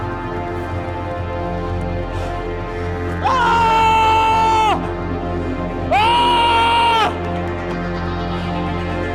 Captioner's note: yells